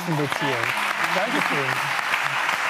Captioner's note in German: Applaus